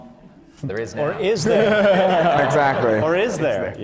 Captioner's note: laughter